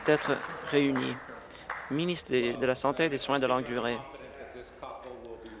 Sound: applause

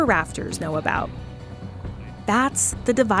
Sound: occasional bird song, sound of water flowing

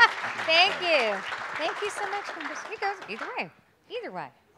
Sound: applause

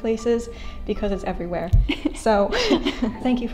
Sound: laughs

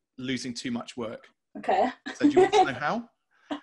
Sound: laughing

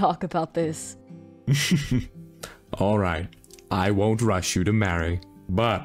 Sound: light laugh

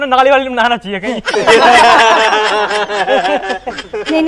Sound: laughing

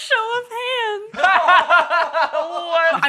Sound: laughter

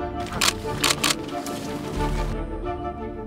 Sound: shutter clicking; upbeat music

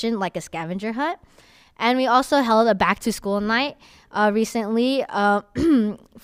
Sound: coughs

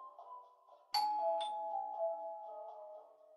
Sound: doorbell chimes

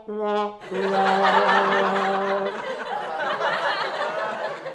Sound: sad trombone music; audience laughs

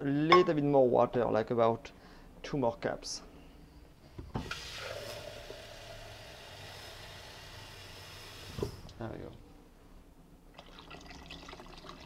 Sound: running water

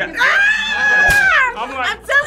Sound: yells and high fives

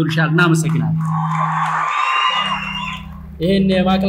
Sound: applause

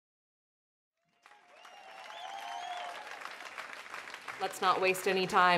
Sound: audience applauding

